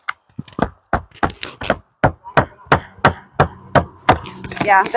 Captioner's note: hammering